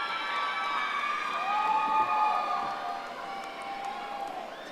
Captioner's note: audience applauding